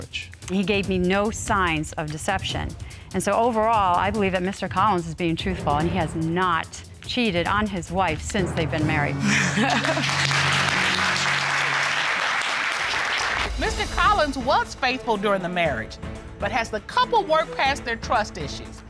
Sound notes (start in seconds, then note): 9.2 laughs with relief; 9.5 applause